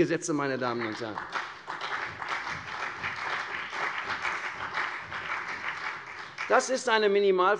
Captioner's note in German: Beifall CDU und BÜNDNIS 90/DIE GRÜNEN